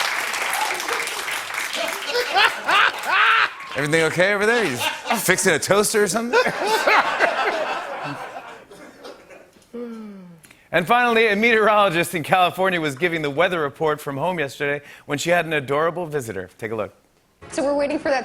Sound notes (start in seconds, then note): 0.0 applause; 6.2 laughter